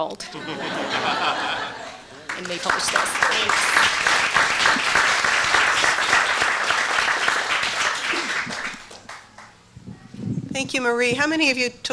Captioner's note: applause